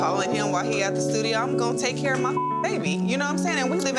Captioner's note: beep